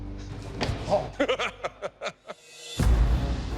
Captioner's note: laughs